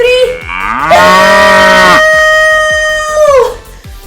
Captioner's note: cow mooing